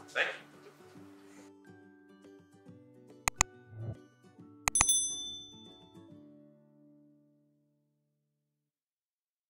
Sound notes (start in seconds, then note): 3.2 mouse clicks; 4.6 bell ringing